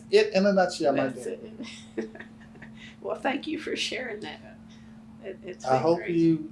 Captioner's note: laughs